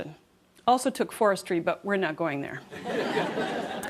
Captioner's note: laughter